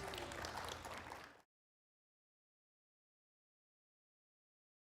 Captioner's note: audience clapping